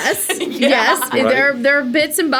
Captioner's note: laughs